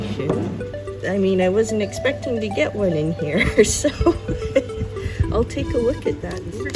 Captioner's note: laughs